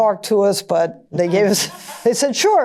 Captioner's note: laughter